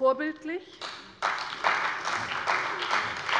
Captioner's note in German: Beifall bei der CDU und dem BÜNDNIS 90/DIE GRÜNEN